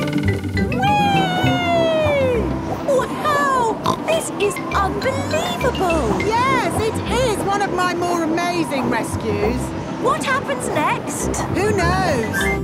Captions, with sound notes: Wee! (snorts) - Wow! This is unbelievable! - Yes! It is one of my more amazing rescues! - What happens next? - Who knows?